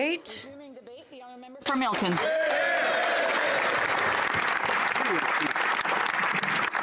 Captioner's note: applause